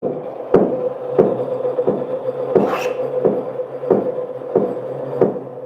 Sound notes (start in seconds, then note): 0.0 machine whirring; 2.3 tool scraping